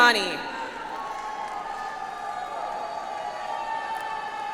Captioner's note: audience applauds